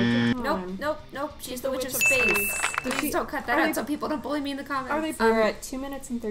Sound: clapping

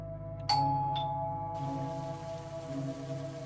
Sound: door bell rings

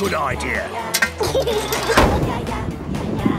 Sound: giggles

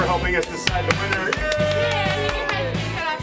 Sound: clapping

